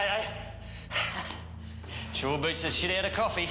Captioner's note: laughs